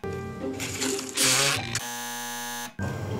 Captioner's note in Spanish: Chisporroteo; zumbador